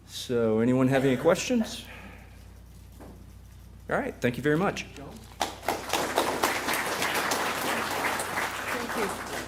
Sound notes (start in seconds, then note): 5.4 applause